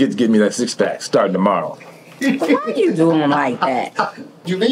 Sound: player laughing

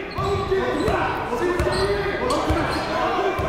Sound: shouting

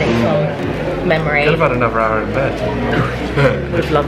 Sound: laughs

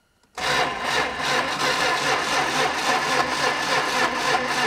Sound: ignition stutters

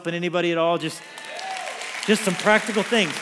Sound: congregation applauds

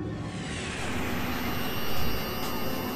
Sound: electric static

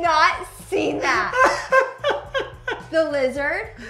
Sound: laughs

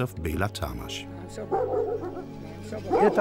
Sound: dogs barking; speaking in foreign language

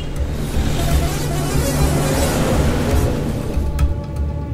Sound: horn blows

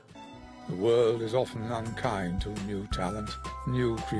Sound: voiceover

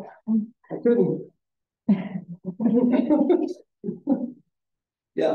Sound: audience chuckling

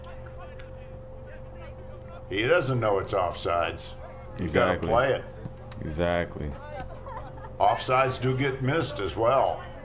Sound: laughter

